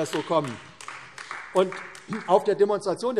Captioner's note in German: Beifall AfD